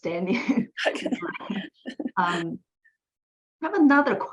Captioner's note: laughs